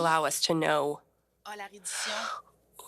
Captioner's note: speaking French